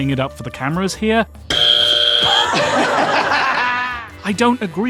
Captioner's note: laughter